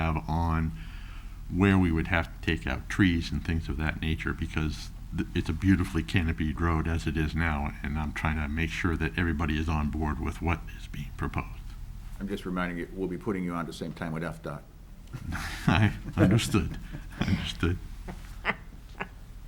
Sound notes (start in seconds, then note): 15.1 chuckles